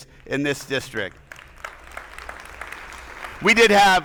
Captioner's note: attendees applauding